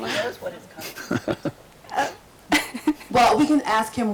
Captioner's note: group mutters in background